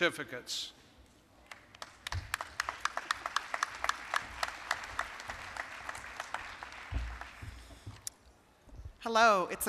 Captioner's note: applause